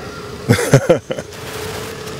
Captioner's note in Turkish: Gülme sesi